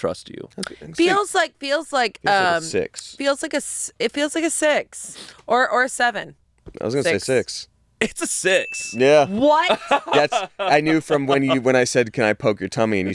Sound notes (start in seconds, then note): 8.5 bell rings